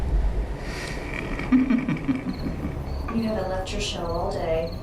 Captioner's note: laughs